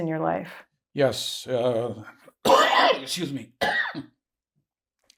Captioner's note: coughing